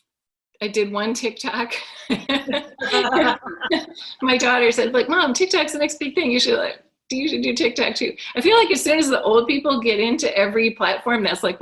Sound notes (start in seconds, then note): 1.8 laugh